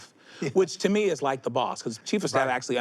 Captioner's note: chuckles